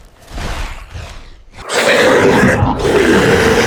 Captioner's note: creature roaring